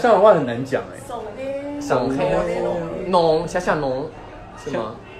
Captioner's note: in Shanghainese